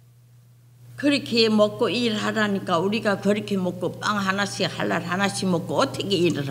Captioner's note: speaking foreign language